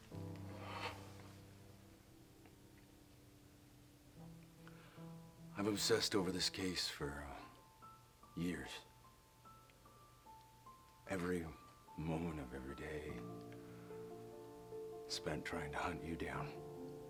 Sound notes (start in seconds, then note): 0.6 sighs